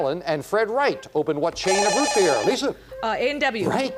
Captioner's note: beep